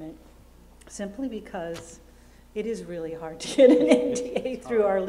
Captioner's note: laughs